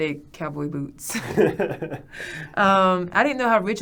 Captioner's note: both laughing